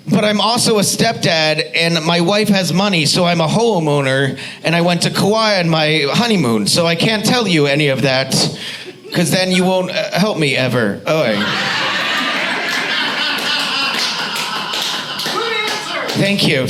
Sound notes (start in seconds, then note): 11.3 audience laughs